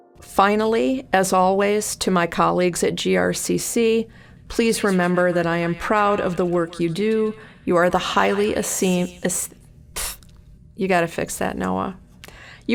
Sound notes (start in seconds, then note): 4.8 echoing